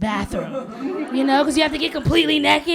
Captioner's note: laughter